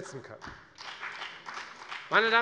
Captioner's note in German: Beifall bei der FDP